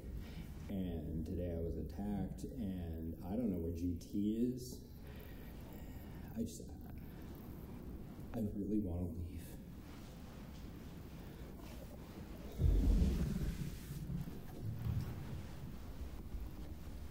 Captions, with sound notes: and today I was attacked, and I don't know where GT is. I just, I really wanna leave. (thunder rumbling)